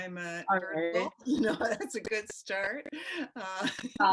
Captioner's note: chuckles; laughs